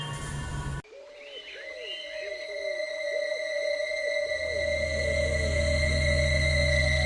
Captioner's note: birds cooing; ominous music